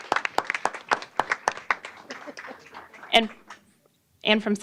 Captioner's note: applause